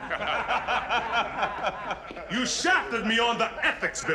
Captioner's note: laughing